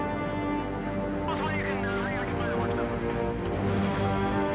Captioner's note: man speaking over radio